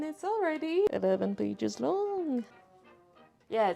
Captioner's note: whispers